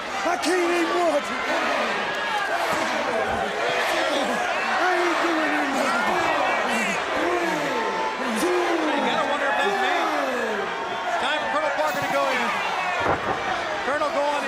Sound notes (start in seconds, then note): 0.0 crowd chatter